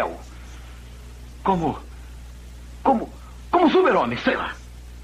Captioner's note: scoffs